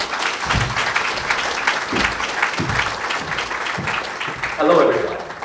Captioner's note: applause